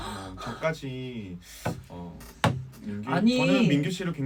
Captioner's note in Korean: 책상 탕탕